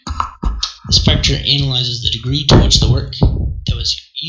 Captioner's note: interrupting ruckus